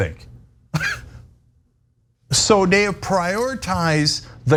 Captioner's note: laugh